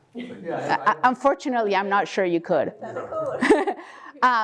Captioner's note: laugh